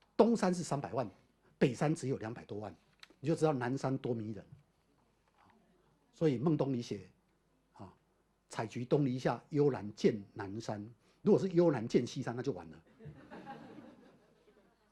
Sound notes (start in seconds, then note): 12.9 audience laughter